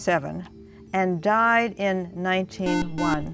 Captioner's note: beeping